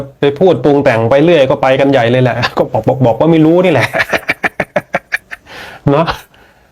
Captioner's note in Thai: เสียงหัวเราะ